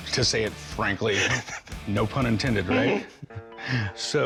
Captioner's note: chuckles